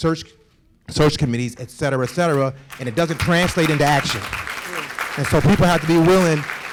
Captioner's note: applause